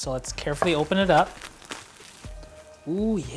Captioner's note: saran wrap crinkling